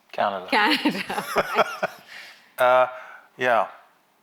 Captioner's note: both laugh